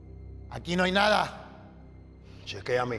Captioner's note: Esteban speaking in foreign language